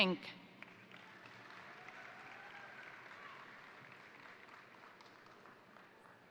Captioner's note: crowd applauding; crowd cheering